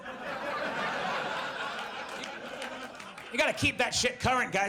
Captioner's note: audience laughs